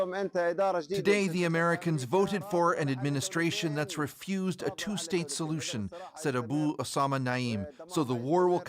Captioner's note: speaking alternate language